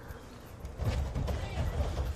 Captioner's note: pounding